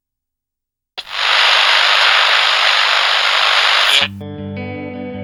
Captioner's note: camera buzzing; bright melodic music